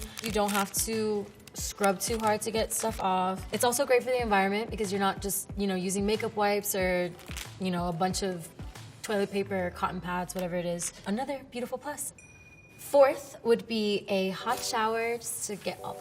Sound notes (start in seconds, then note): 12.2 clink